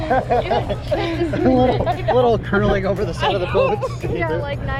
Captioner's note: laughter